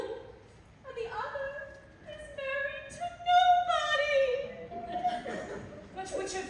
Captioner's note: she starts to cry